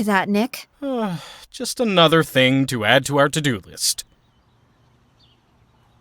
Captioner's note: sigh